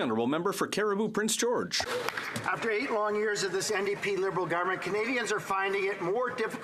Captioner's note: applause